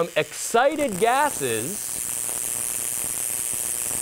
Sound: buzzing

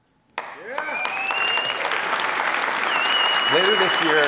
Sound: cheering and applause

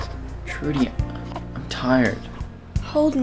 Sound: Brady coos

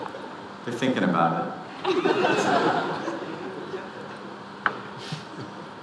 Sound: audience laughing; audience laughing

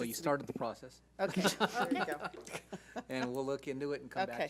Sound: laughing

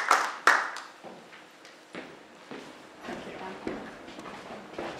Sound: applause

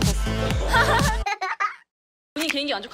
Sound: hee hee

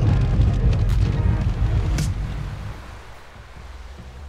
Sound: waves lapping

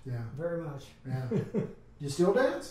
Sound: laughs

